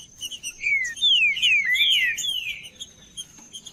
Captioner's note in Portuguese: trinca ferro cantando